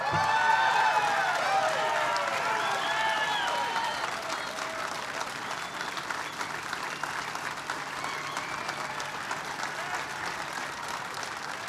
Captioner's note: applause